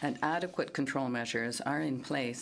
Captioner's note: speaking in French